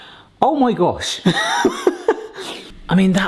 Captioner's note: laughs